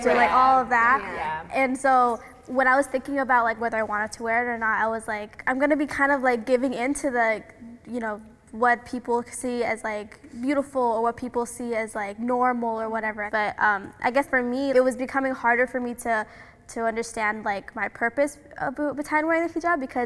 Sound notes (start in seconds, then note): none